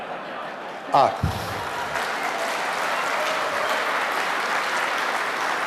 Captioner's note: audience laughing; applause